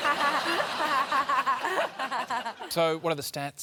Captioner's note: laughter